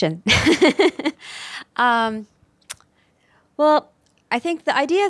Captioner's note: laughs